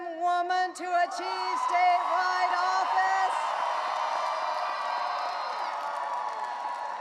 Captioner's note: audience cheering